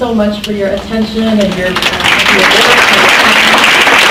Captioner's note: drown out by applause